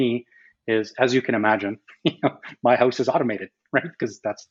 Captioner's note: laughs